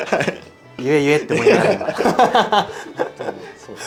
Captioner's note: laughs